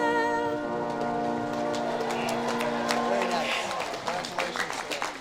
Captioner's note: audience claps and cheers